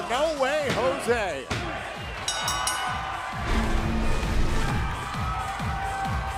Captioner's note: bell ringing